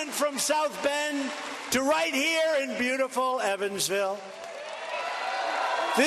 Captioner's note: cheers and applause